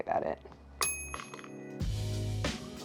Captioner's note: calm music; bell dings